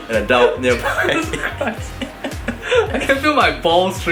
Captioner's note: laughing